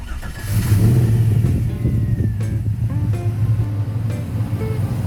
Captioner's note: engine Start